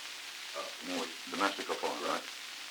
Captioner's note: Murrow, mumbling